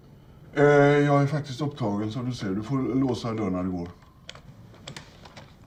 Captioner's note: dad speaking foreign language